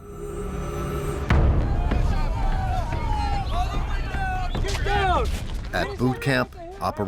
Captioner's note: dramatic music; cadres yelling